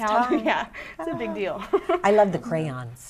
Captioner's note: laughing